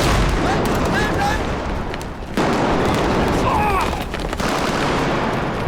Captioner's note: rifle and machine guns fire